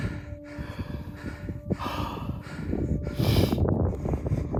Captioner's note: both panting